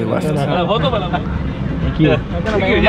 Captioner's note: speaking foreign language